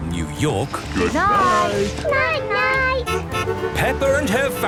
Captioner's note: honking